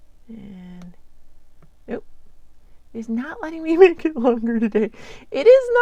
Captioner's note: laughs